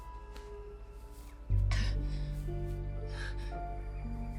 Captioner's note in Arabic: لهاث